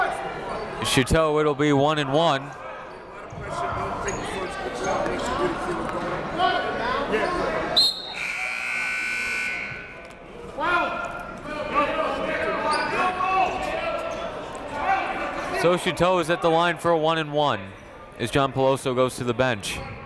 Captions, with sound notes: Chateau, it'll be one and one. (whistle) (buzzer) So Chateau is at the line for a one and one as John Peloso goes to the bench,